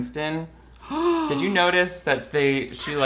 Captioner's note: gasps